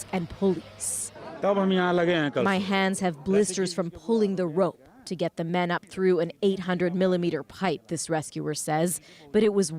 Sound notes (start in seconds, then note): 3.4 speaking alternate language